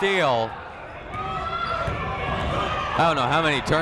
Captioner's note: people shouting in the crowd